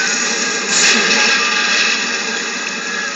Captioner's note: splash